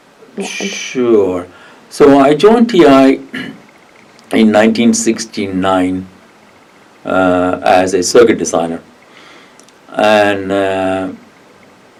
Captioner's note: coughs